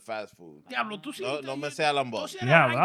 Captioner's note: speaking In Foreign Language